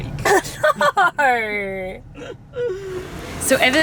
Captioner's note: laughs